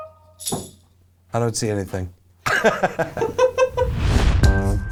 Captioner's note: both laugh